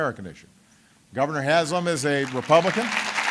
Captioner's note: applause